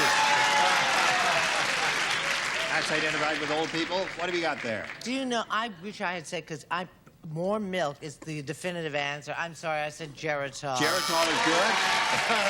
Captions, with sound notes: Prune juice. - Prune juice. [cheering] That's identified with old people. What have you got there? - Do you know, I wish I had said-- because more milk is the definitive answer. I'm sorry. I said Geritol.